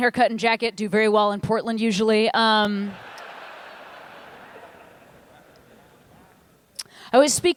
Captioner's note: laughter